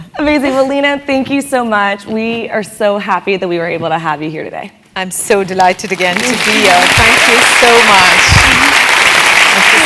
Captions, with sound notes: >> Amazing, well, Leena, thank you so much. We are so happy that we were able to have you here today. >> I'm so delighted again to be here. >> [APPLAUSE] >> Thank you so much.